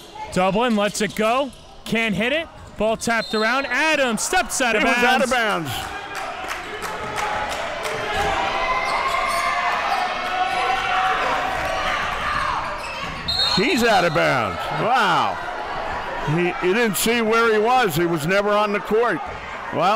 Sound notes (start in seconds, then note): 7.2 crowd cheering